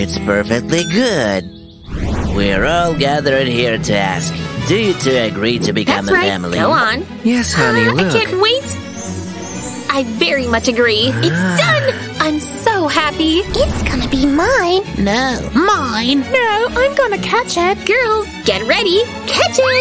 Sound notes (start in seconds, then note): 13.7 cheerful hum